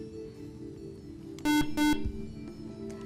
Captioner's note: buzzer